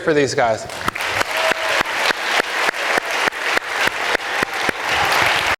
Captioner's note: audience and panel applauds